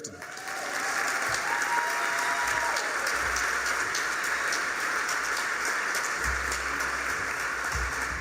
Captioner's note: applause, cheers